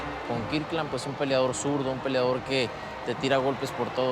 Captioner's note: speaking Spanish